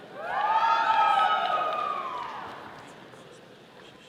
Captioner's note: all cheering